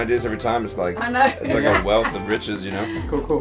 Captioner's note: laughs